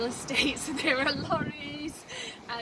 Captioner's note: chuckles